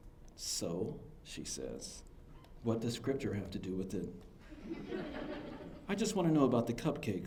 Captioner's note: laughter